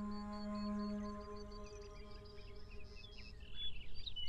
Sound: birds chirping

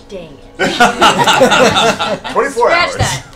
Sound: laughter

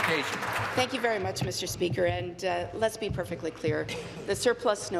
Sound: applause

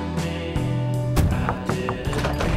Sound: knocking on door

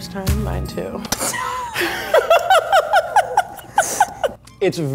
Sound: laughing

